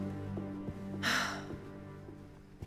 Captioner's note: Elizabeth sighs